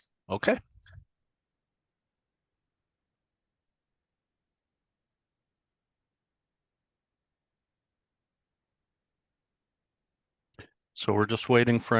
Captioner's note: silence